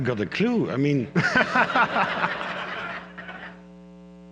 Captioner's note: laughter